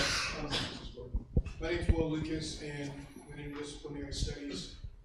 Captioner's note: speaks without microphone